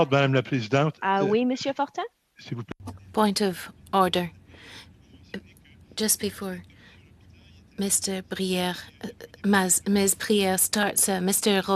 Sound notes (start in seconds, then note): 6.9 speaking French